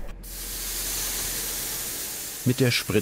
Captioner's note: hissing